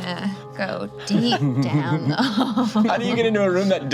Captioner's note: group laughing; laughs